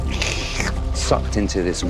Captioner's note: slurp